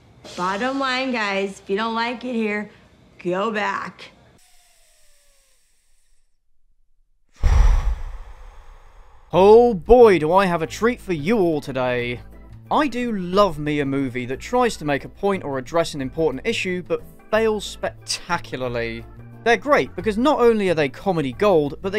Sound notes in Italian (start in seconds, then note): 7.4 Sospira Lentamente